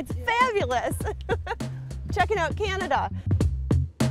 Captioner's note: laughs